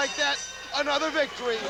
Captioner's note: bell ringing